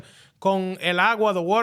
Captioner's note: speaking In Foreign Language